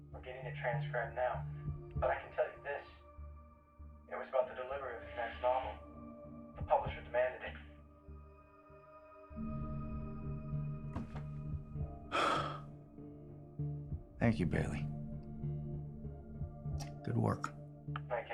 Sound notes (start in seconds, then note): 12.1 Kenny sighs